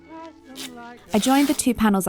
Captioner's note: fabric ribbing in a satisfying way